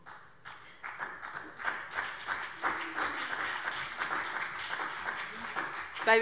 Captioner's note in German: Vereinzelter Beifall BÜNDNIS 90/DIE GRÜNEN und CDU